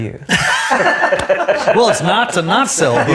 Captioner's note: laughs